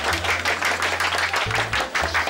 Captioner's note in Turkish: Alkış sesleri